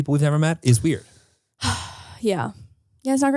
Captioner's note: sighs